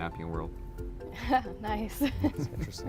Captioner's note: laughs